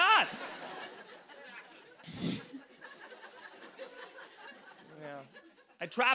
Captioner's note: laughter